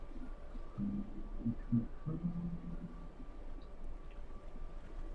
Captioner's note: humming